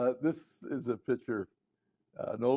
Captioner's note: laughter